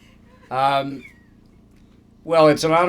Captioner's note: laughter